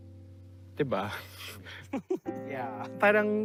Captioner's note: chuckling